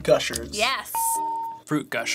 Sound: ding

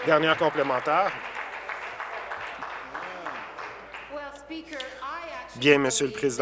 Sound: applause

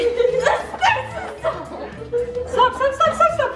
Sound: girls laughing

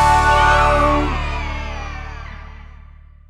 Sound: cheering

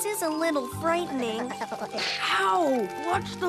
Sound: nervously chatters

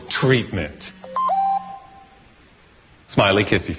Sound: phone beeps

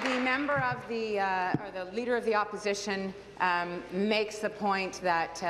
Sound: applause

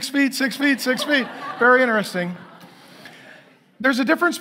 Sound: congregation laughing

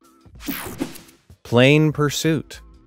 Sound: screen whooshing

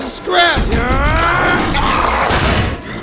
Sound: Hot Rod lets out a battle cry!

